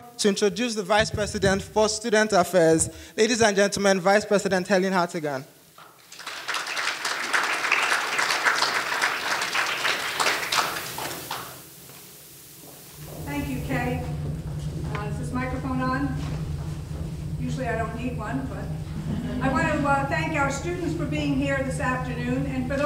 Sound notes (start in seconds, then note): 5.9 audience applauding; 18.8 audience laughing